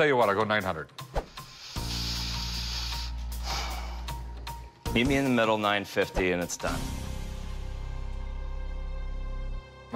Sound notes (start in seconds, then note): 1.4 inhales; 3.1 exhales